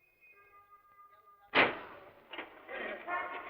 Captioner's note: car door closes